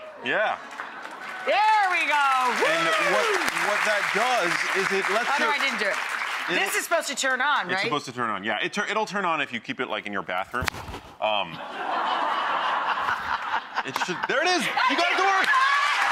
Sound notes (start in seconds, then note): 0.5 audience applauding; 11.6 audience laughing; 14.5 laughing; 14.7 audience applauding